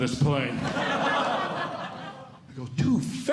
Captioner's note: audience Laughing